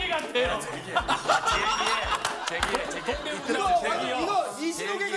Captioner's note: A burst of laughter